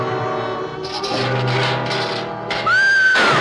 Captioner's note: clanking softly; gun fires; screaming loudly